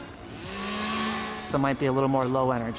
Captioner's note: chainsaw buzzing